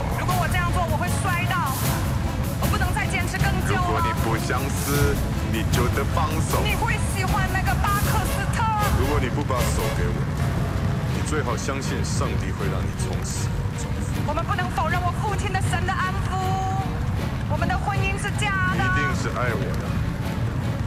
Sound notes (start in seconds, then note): 1.7 fire roars; 3.5 fire roars